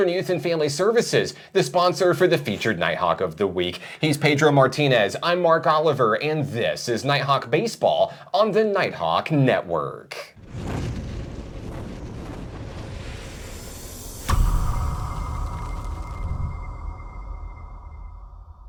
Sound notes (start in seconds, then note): 10.4 air whooshing; 14.2 sparse music